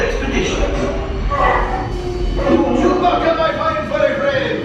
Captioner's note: Chewbacca speaking